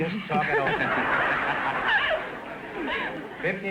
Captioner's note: audience laughter